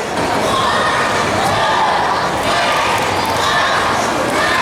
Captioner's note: audience chanting